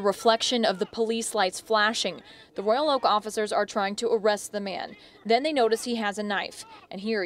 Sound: yelling

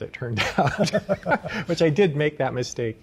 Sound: laughing

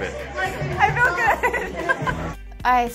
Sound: laughs

